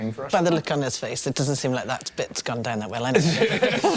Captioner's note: laugh